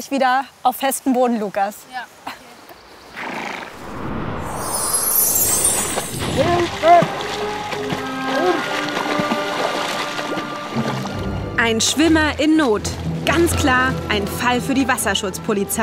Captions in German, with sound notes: und wir sehen uns gleich auf festem Boden, Lucas. Okay. (Schnauben) Hilfe! (Gefahrvolle Musik) Ein Schwimmer in Not! Ganz klar ein Fall für die Wasserschutzpolizei.